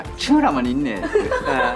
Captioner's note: peking dialect